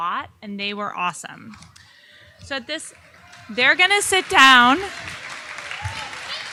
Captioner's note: audience applauding